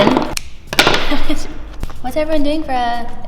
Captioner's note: laughs